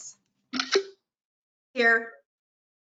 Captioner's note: pop